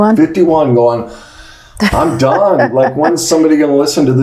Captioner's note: laughs